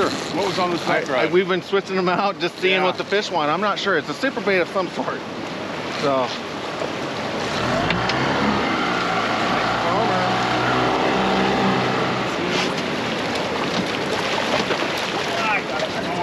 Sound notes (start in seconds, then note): 6.4 boat engine running; 11.1 fish splashing